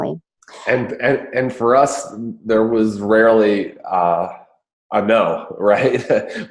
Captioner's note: laughs